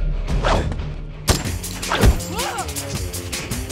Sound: fight sounds

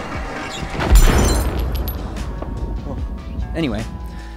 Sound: machinery booming

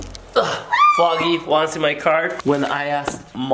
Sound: screams

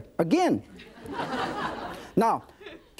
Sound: audience laughing

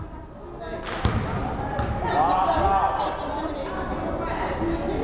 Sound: crowd chattering

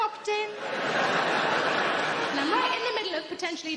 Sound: audience laughing

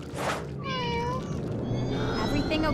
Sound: meowing

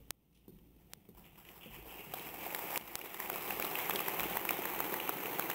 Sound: audience applauds

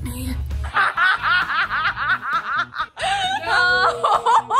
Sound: laughing

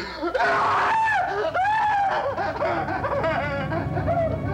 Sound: screaming

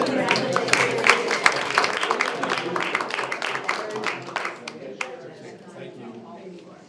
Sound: board applauds and chatters indistinctly

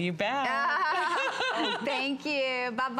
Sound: laughter

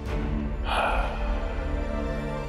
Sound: sighing

